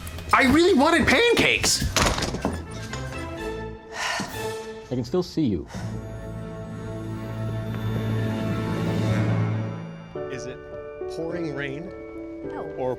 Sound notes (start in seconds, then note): 1.8 slams door shut; 3.7 sighs